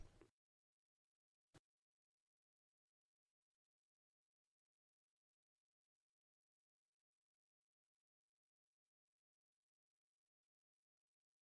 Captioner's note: silence